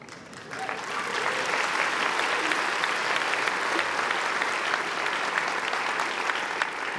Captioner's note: applause